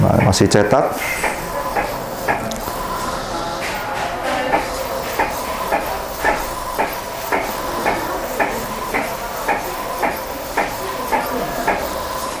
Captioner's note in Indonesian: suara mesin printer